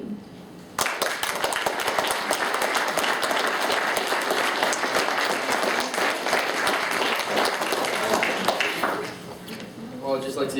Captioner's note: applause